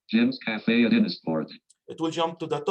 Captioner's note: automated Voice